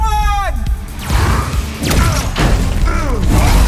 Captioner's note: grunts, roars